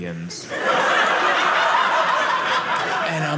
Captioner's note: audience laughing